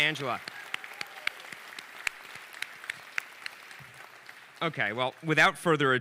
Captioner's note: audience applauding